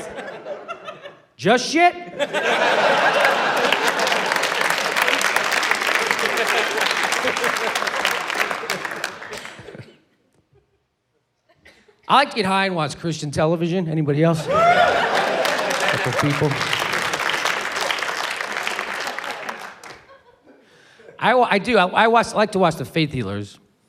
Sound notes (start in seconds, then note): 2.3 applause, laughter; 14.4 cheering; 18.2 applause